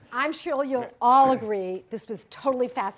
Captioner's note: voiceover